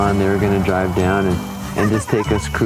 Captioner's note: girls laughing